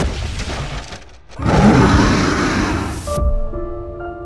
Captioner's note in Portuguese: rugido da criatura paranormal</i>